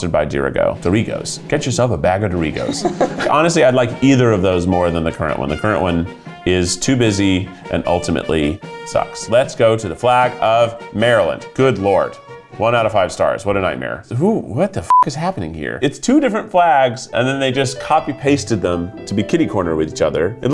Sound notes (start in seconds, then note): 14.8 beep